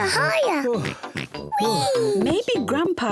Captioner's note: grandpa pig exhales